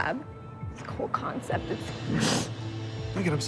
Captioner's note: sniffs